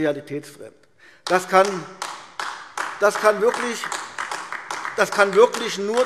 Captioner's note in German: Beifall AfD